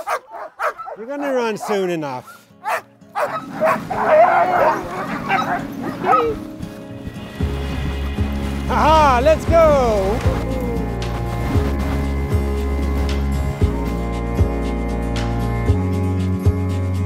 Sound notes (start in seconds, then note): 2.7 dogs barking